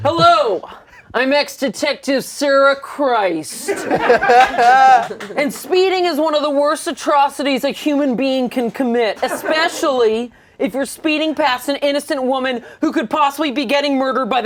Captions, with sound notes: Hello, I'm ex detective, Sarah Christ. (laughter) And speeding is one of the worst atrocities a human being can commit. Especially, if you're speeding past an innocent woman who could possibly be getting murdered